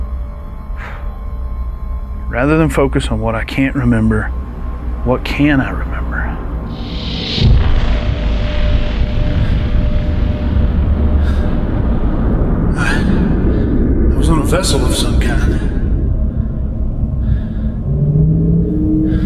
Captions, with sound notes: Rather than focus on what I can't remember, what can I remember? (energy whirring) I was on a vessel of some kind.